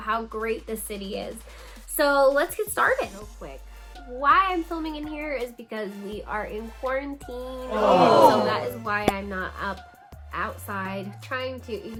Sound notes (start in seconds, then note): 7.7 audience groaning